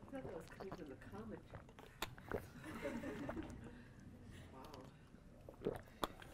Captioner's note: audience member commenting followed by light laughter